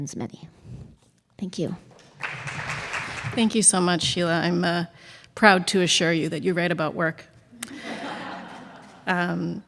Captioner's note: laughter